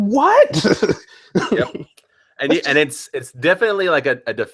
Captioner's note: laughs disbelievingly